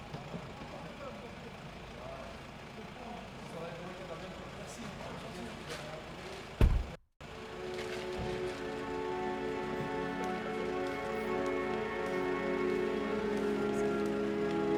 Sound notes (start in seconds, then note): 0.1 people chatting indistinctly; 7.4 soft intense music